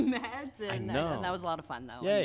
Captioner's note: laughs